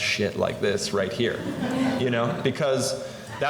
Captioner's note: laughter